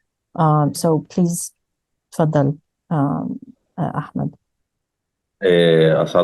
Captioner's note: speaking arabic